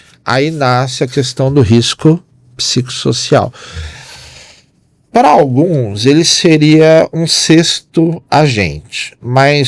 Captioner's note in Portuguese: suspirando